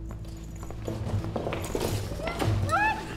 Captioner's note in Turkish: Ayak sesi